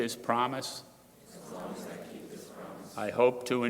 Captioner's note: crowd repeating